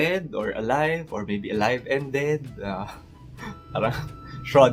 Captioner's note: chuckles